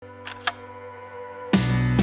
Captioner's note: Slide projector click